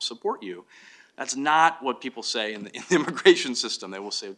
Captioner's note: laughs